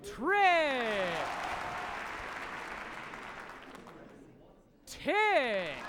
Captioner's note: audience applauds each time new word is formed